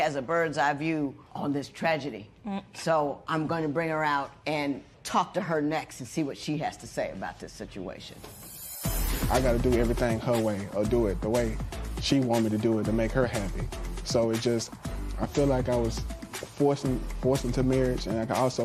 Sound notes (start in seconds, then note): none